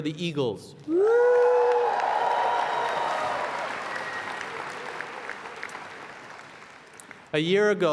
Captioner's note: applause